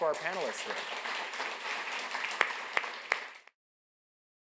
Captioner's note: audience applauding